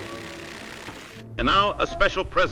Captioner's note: construction sounds